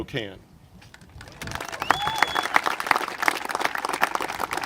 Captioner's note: congregation applaud